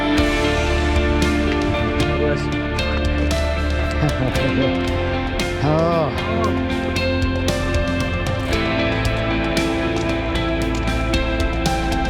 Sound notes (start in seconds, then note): 4.3 laughs; 5.7 heavy breathing